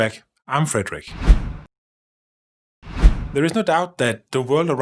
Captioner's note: air whooshing